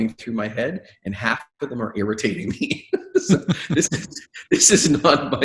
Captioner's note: laughing